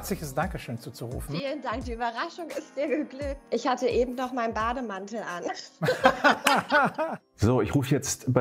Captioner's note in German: lacht